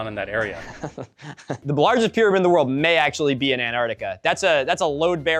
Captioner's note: laughing